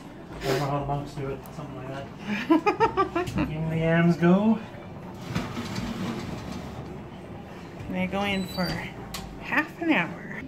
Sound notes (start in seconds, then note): 2.3 laughing